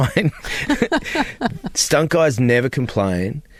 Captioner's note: laughter